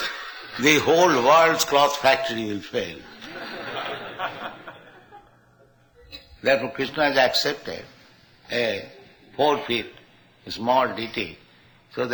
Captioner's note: laughter